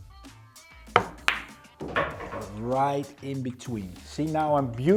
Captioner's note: pool ball hitting